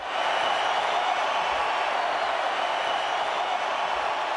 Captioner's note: crowd cheering